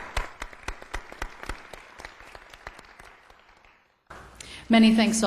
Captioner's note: applause